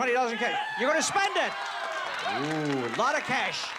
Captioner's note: cheering